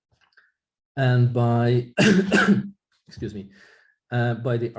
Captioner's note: coughing